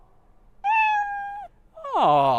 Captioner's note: meow